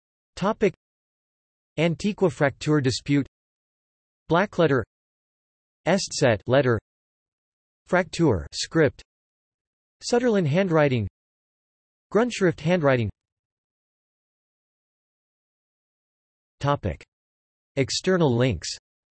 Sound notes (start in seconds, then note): 3.2 in German